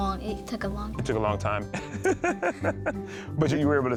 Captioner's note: laughs